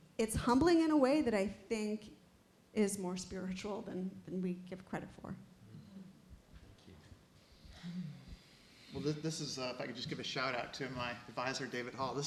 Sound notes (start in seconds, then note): none